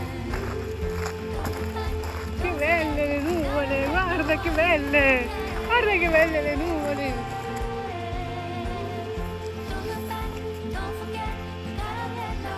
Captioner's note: speaking Spanish